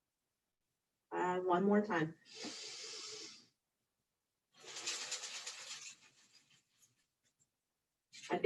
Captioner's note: deep breath